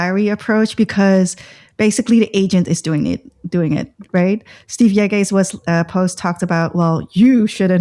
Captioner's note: uh